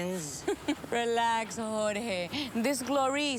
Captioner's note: she laughs